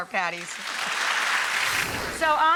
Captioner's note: applause